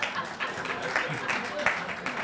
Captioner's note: laughter; applause